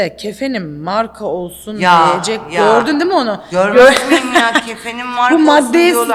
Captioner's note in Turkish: kahkaha